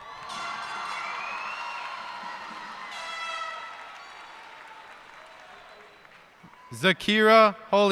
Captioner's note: cheers and applause